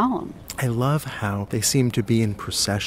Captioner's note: voiceover